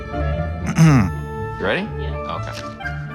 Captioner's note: clears throat